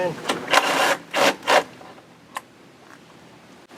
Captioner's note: drill rattles